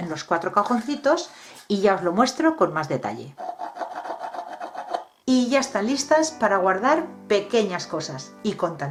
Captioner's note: laughs